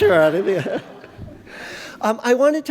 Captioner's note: laughter